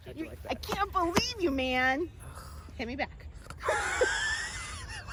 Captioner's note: laughing